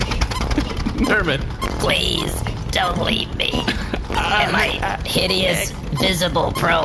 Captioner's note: laughing